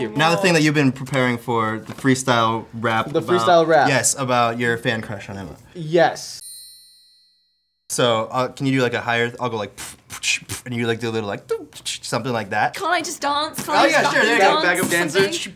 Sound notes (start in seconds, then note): 9.7 beat boxes